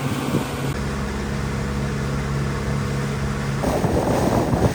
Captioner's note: water and engine sounds